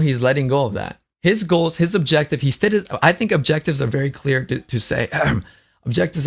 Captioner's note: coughs